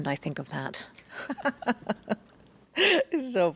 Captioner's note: laughs